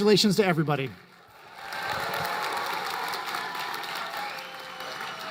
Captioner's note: applause